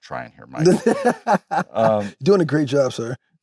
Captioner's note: Michael laughs